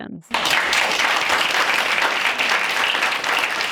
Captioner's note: audience applauds